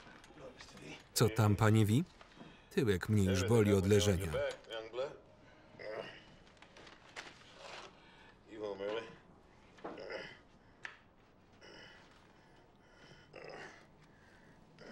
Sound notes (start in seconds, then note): 5.8 groaning; 9.9 groaning